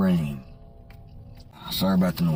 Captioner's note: street sweeper buzzes